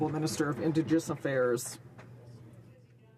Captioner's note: some Applause